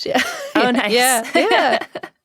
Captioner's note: laughs